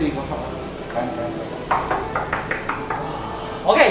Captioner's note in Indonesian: knocking